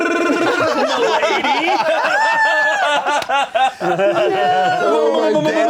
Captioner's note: everyone laughing